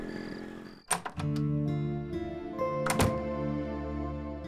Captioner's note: door opens